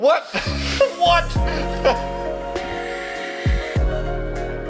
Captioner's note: laughs